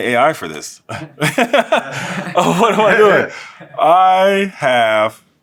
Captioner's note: laugh